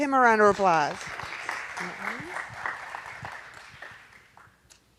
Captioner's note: audience applauding